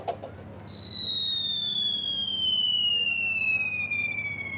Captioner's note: falling sound effect